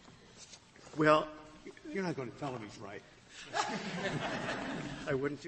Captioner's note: laughter